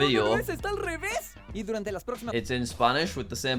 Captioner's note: voice actor speaking Spanish